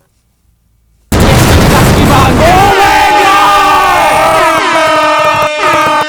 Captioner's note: screaming